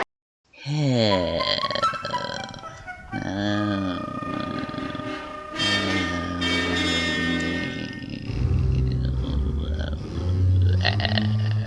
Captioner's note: sulks loudly